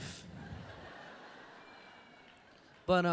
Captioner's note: laughter